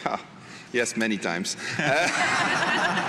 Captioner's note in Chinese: 笑声